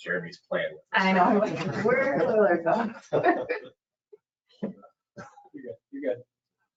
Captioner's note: laughs